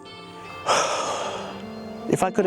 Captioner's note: sighs